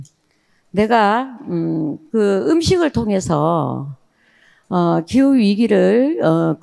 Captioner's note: speaking in foreign language